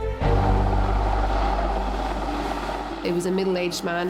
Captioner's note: engine humming